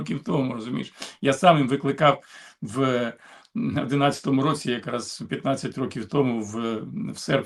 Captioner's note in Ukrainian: сопіння; прочищення горла